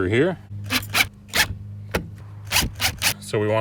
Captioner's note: drill whirring